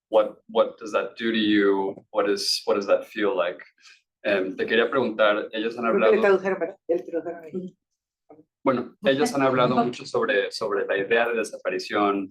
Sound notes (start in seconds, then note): 4.4 speaking Spanish